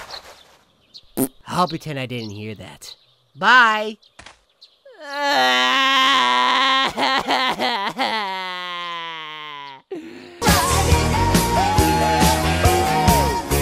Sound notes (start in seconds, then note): 1.2 fart; 4.8 sobbing